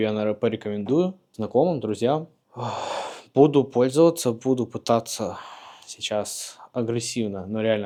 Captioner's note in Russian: вздыхает; тяжело вздыхает